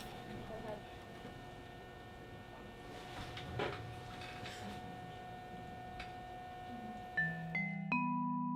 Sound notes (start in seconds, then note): 7.4 scanner humming